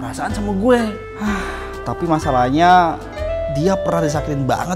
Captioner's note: sigh